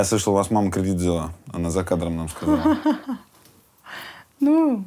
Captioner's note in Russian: смеётся